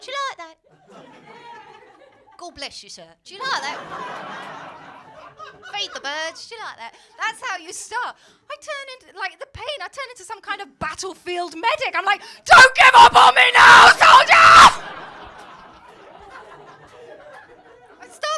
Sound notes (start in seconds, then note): 0.2 cockney Accent; 5.5 cockney Accent; 12.5 shouts; 15.8 crowd laughing